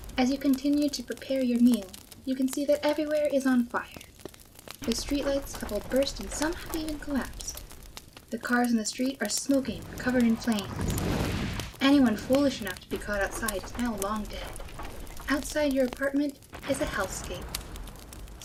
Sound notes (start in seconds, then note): 3.0 sound of fire and fire-related explosions; 9.3 sound of Fire continues followed by sounds of falling debris